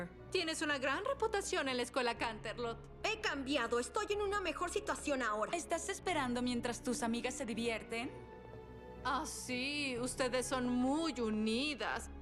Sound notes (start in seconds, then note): none